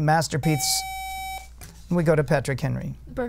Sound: buzzer

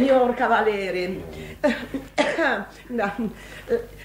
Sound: coughs

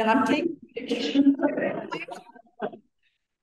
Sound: laughing

